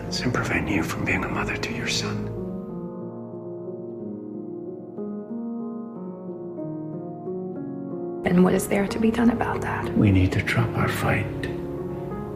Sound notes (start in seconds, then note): 8.5 voiceover